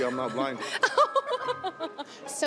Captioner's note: laughter